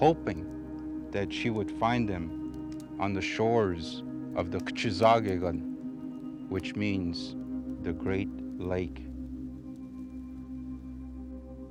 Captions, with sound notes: hoping that she would find them on the shores of the (speaking foreign language), which means the great lake.